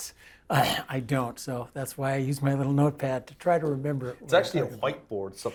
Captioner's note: cough